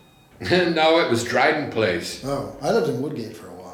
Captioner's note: laughs